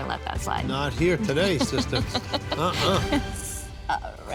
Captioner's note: laughing